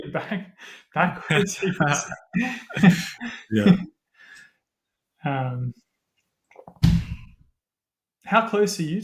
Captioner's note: laughter